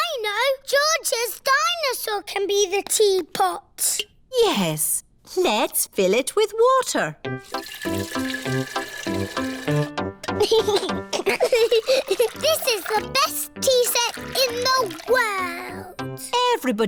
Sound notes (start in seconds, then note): 10.4 giggles